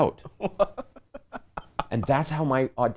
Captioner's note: laughing